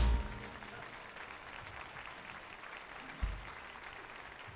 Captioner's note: audience applauding